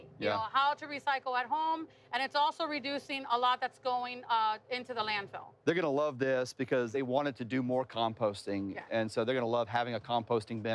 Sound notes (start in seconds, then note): none